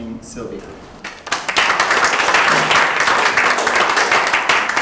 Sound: applause

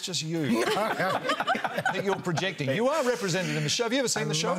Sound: laughter

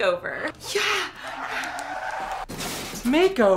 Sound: tires squeal; car crashes

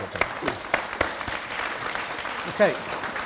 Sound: applause

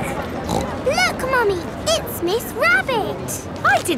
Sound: snorts

